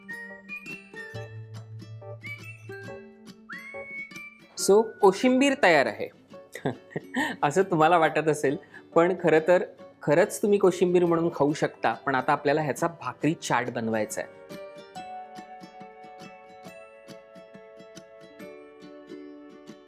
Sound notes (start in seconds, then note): 6.5 chuckles